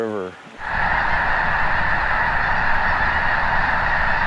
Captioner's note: snow geese calling